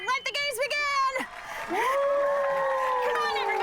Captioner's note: crowd applauds, cheers